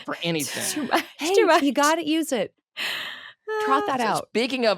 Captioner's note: laughing